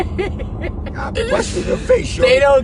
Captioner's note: driver laughs